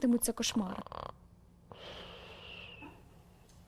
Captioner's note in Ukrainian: храп, аж підсвистує